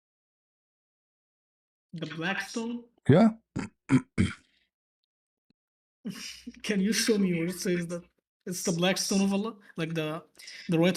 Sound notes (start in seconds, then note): 3.8 cough and clears throat